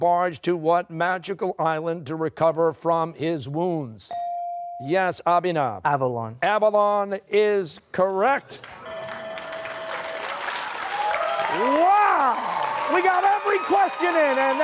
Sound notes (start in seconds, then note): 8.6 applause; 8.8 buzzer